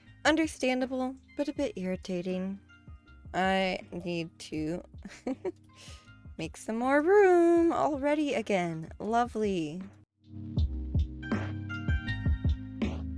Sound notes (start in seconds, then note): 5.1 laughs